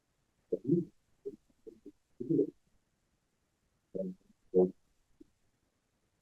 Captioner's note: presenter speaking faintly off mic